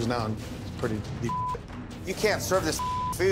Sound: beep

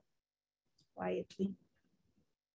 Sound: woman's Voice

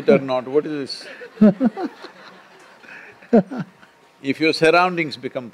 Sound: laughter

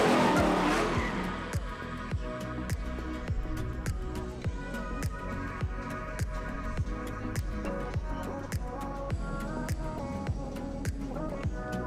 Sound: crowd chatter

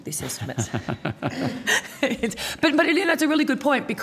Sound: both laughing

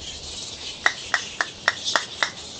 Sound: clapping

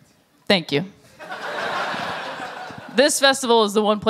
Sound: laughter

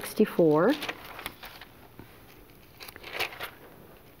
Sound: paper rustling

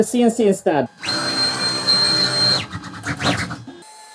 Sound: servo

